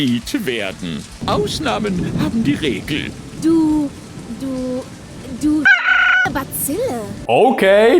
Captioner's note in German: Hahnenruf